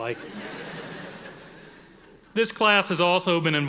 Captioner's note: audience laughing